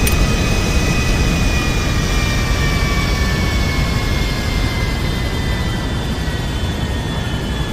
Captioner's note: engines shut down